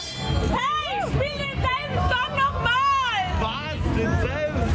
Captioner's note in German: Frau schreit